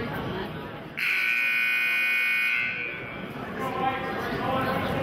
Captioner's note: buzzer honks